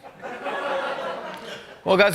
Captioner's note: laughter